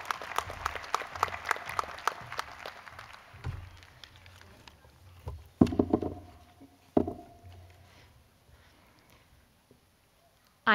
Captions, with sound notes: PLEASE REMAIN STANDING IF YOU HAVE A 4.0 GPA. [CHEERS AND APPLAUSE] CONGRATULATIONS ON ALL YOUR ACCOMPLISHMENTS.